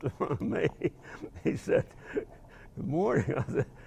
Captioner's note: laughing